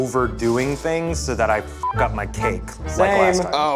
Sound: beep

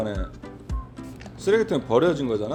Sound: nose rubbing

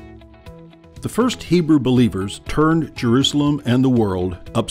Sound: voiceover

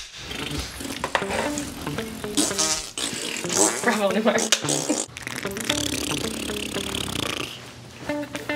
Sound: blOWING A RASPBERRY

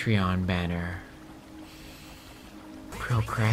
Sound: inhale

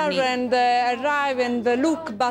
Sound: speaking foreign language

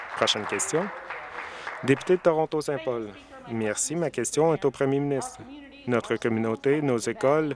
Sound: applause

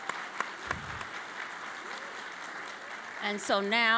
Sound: applause

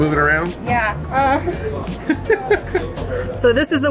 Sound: laughs

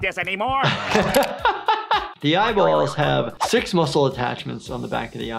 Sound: laughs

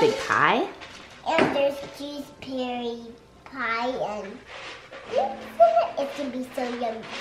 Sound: whispers

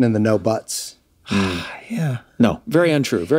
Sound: sighs

